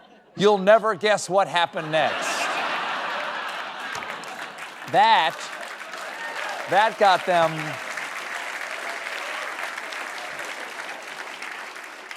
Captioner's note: applause